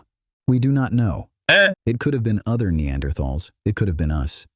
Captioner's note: imitates donkey braying